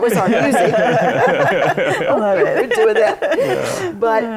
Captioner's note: laughter